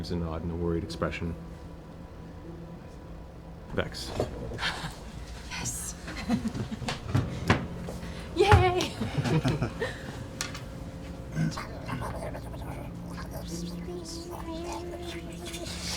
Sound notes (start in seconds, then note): 8.4 giggles